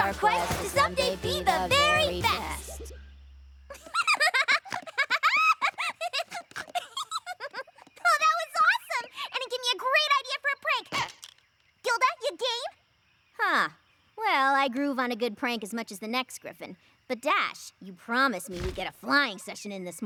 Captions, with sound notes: TO SOMEDAY BE THE VERY BEST. [ LAUGHS ] OH, THAT WAS AWESOME! AND IT GAVE ME A GREAT IDEA FOR A PRANK. [ SQUEAK! ] GILDA, YOU GAME? HUH. WELL, I GROOVE ON A GOOD PRANK AS MUCH AS THE NEXT GRIFFON. BUT, DASH, YOU PROMISED ME WE'D GET A FLYING SESSION IN THIS MORNING.